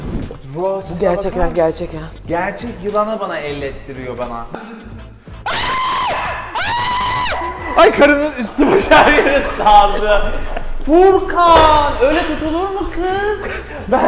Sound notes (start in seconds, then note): 5.4 screams